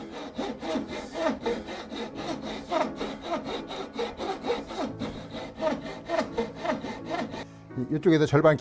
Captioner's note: sawing sound